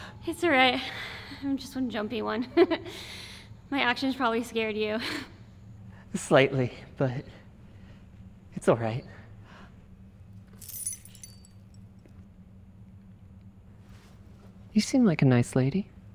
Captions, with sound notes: It’s alright. I’m just one of the jumpy ones. [chuckles] My actions probably scared you. Slightly but, it's alright. [purse jingles] You seem like a nice lady.